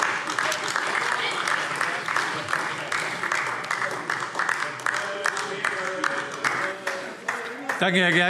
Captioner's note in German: Beifall DIE LINKE, SPD und BÜNDNIS 90/DIE GRÜNEN - Zurufe AfD: Tätätä!